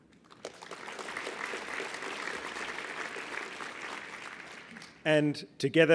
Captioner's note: applause